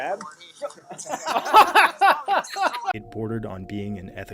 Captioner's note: all laughing